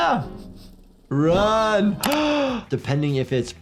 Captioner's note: doctor gasps